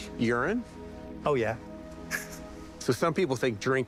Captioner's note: chuckling